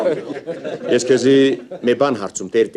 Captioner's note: haha